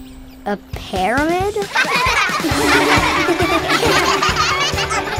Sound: laughing

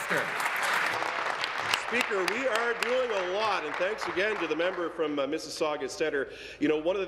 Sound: applause

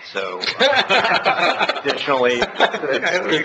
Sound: laughter

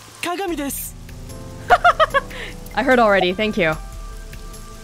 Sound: chuckles

